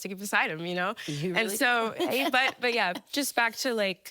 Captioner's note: laughing